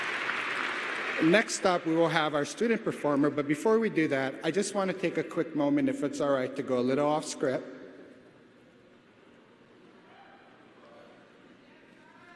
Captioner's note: applause